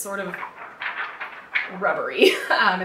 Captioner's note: paper flaps